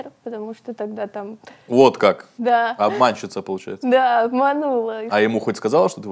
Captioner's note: laughs